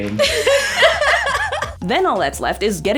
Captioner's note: women laughing